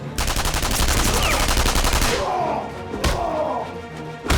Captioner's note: soldiers grunting